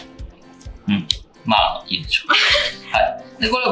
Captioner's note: laughs